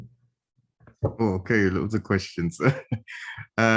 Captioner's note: chuckle